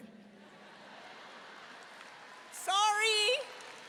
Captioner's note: audience laughing